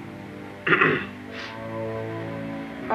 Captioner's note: clears throat